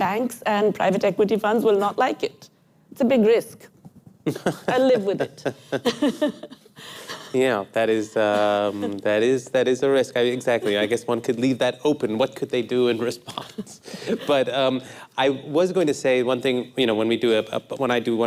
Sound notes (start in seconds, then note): 8.3 laughter